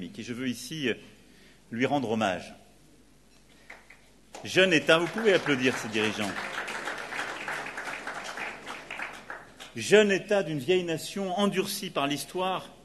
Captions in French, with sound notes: Et je veux ici lui rendre hommage. Vous pouvez applaudir ces dirigeants. (Applaudissements) Jeune Etat d'une vieille nation endurcie par l'histoire